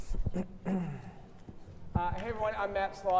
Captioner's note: clearing throat